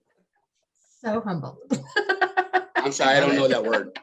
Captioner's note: laughs